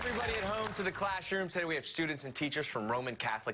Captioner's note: cheers and applause